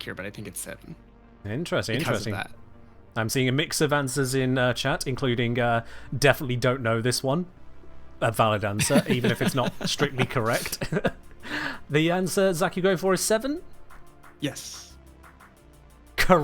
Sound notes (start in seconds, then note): 8.8 both laugh